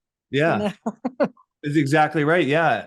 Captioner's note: laughs